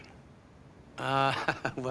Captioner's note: laughing